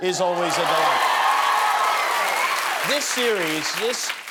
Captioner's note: applause